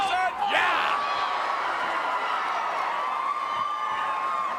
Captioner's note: crowd cheering